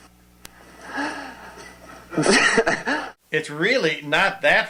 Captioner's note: laughing